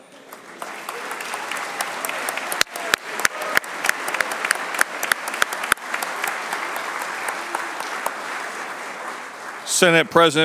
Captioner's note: applause